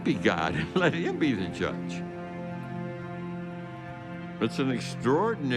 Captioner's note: chuckles